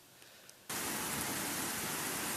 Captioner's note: rain